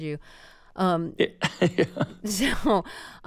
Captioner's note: laughter